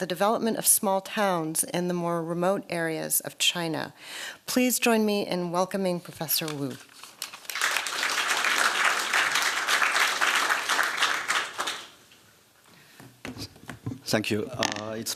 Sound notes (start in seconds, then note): 7.1 applause